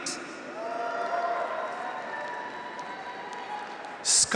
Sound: graduates cheer; audience applauds

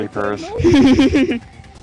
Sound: laughs

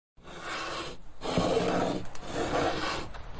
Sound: scraping

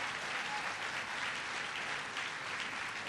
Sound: applause

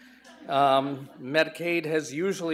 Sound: audience laughs

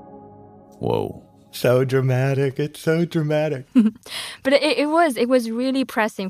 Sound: laughs

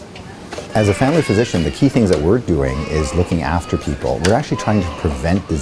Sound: baby crying

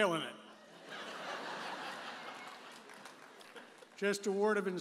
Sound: audience laughs

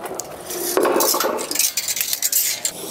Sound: metal rattling

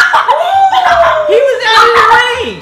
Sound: shouts; cheering

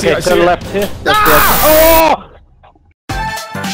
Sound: screams

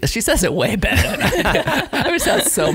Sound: laughing

